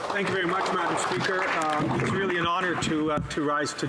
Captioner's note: applause